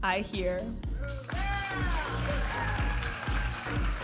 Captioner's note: audience applauding and cheering; upbeat music